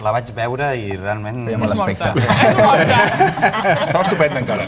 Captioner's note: laughs